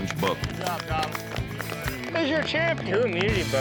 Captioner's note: applause